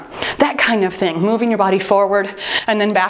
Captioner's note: timer beeps